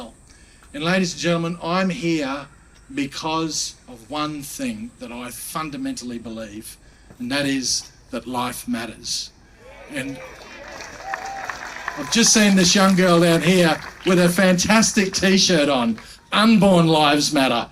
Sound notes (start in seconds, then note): 10.0 applauding